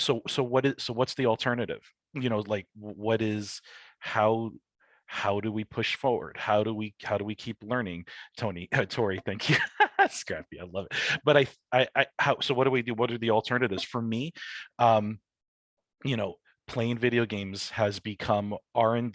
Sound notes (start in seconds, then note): 9.3 laughing